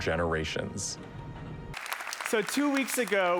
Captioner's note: applause